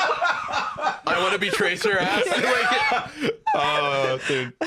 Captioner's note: laughs; all laughing